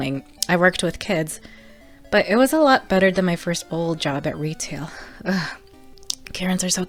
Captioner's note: shudders